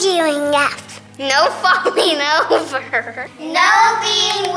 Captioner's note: laughing